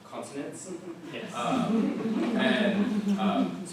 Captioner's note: laughter